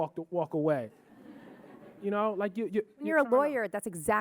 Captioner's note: audience laughing